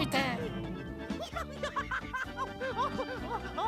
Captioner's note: laughing